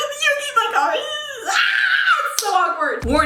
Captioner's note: screaming